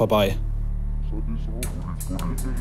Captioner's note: tense sounds, distorted voice